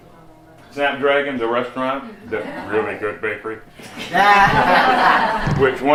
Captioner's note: laughter